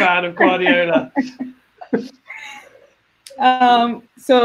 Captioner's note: laugh